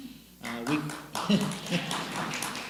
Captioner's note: clapping; laughs